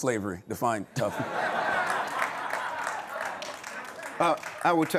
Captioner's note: audience laughs